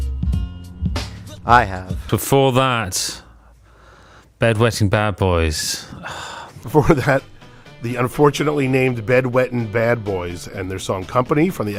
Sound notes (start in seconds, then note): 5.8 sighs; 5.8 sighs again; 6.6 chuckles